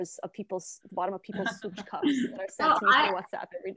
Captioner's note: non-english